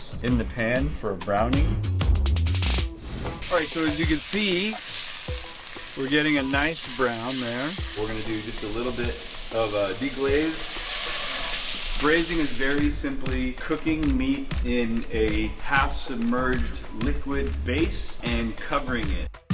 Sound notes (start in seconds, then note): 10.8 sizzling sound